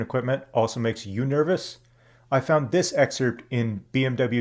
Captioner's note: none